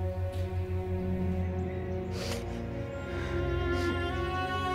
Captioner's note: sniffles